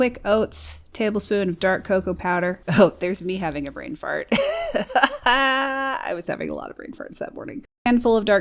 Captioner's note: laughs